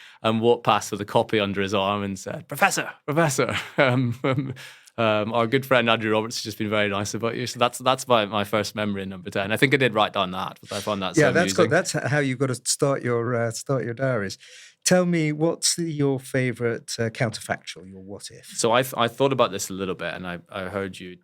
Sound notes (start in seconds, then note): 3.9 laugh